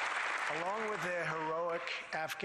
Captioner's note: applause